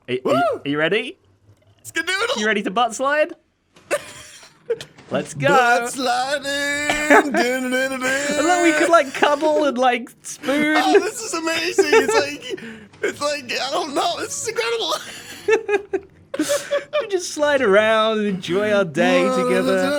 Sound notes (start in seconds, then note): 16.0 both laugh